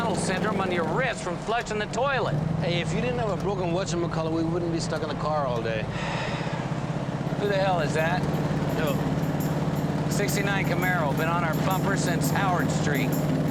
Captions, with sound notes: on your wrist from flushing the toilet. - Hey, if you didn't have a broken whatchamacallit, we wouldn't be stuck in the car all day. - (sighs) Who the hell is that? - Who? - '69 Camaro, been on our bumper since Howard Street.